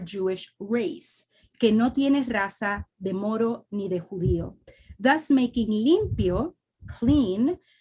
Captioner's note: speaks spanish